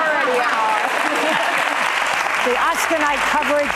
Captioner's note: audience applauding